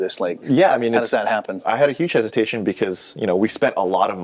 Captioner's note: none